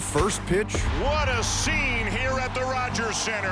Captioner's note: crowd chant